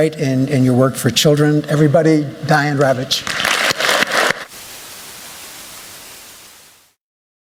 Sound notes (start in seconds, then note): 3.2 applause